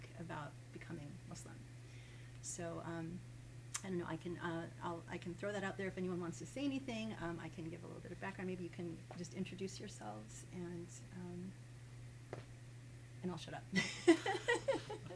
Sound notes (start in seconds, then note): 13.8 laughs